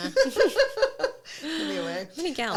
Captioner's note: both laughing